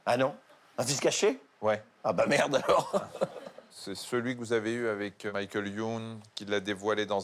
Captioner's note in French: rires